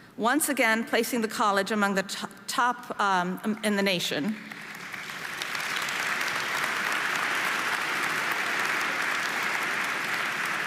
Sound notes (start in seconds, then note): 4.4 audience applauding